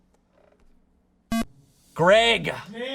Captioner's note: electronic beep